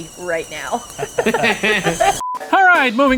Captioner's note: kettle blowing; laughing; beeping